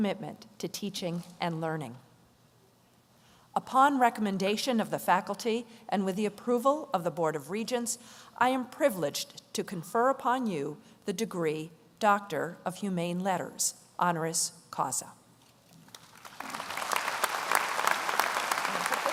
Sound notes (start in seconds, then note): 15.9 audience applauds